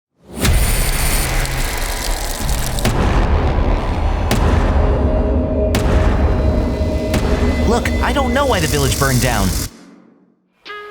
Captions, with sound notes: (fire crackling) (dramatic music) - Look, I don't know why the village burned down.